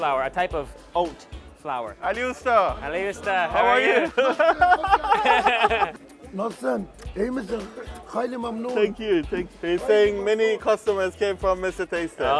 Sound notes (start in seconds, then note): 3.8 laughs; 6.3 speaking foreign language